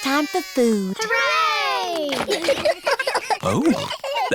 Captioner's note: giggles